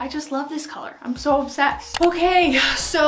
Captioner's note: camera shutters